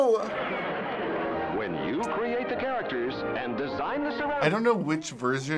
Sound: voice-over

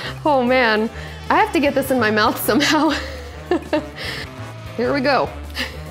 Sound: laughs

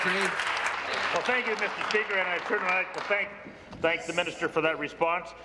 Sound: applause

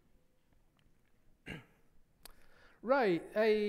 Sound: coughs

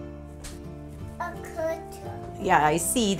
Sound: toddler babbling

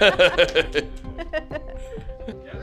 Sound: laughing

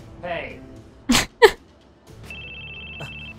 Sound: chuckle

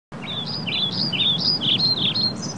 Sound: nature Sounds

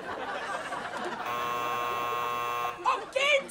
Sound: buzzer

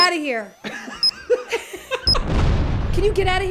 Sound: laughing

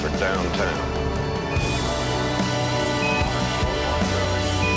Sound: device beeping, "Wait" continues

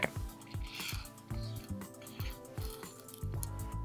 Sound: stones sliding

